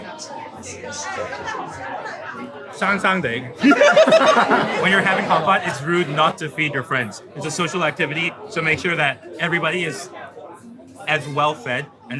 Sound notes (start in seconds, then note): 0.2 people chattering; 2.8 speaking in foreign language; 3.6 group laughing